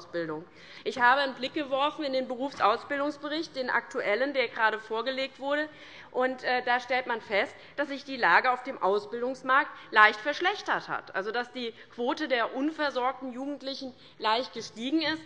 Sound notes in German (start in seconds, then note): none